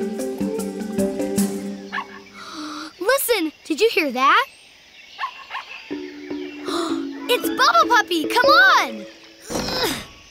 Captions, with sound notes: [barking] Listen. Did you hear that? [barking] [gasping] It's Bubbe Puppy! Come on!